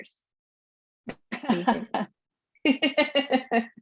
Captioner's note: laughing